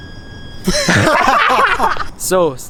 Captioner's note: burst Laugh